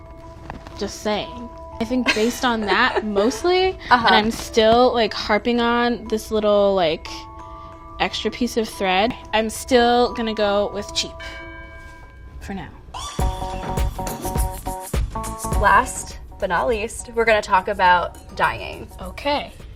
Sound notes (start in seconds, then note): 1.9 laughing; 13.0 dance music